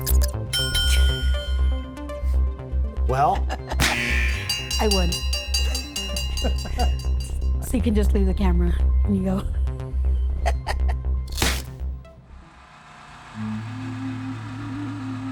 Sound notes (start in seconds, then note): 0.0 synthesized music; 6.4 laughs; 10.4 laughs; 10.5 synthesized music; 13.4 soothing music